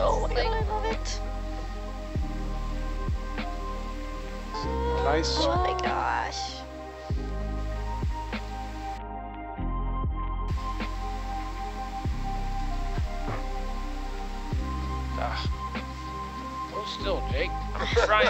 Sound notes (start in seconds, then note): 4.5 woman squealing; 9.4 mellow music continues